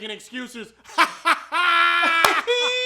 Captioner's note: laughing; weirder laughing